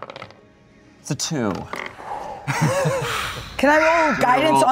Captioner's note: laughs